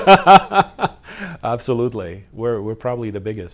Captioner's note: laughs